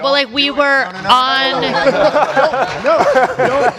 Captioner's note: audience laughs